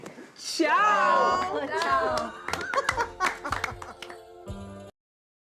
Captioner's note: laughter